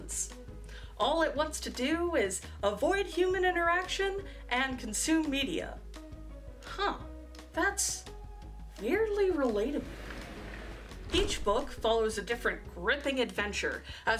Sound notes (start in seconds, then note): 9.8 whoosh